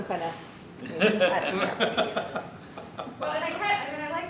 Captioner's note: laughter